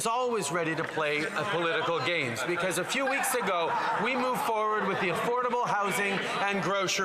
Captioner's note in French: voix de l'interprète